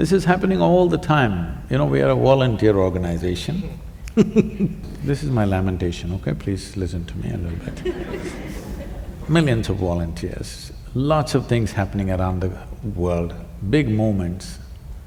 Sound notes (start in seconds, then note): 4.0 laughs; 7.4 laughter